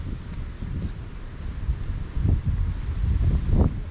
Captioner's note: wind blowing